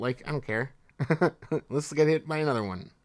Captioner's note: laughs